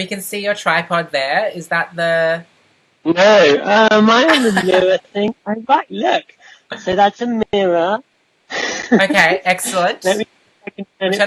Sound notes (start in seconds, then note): 8.6 laughs